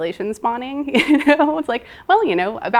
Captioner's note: laughing